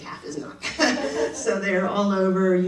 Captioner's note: audience laughing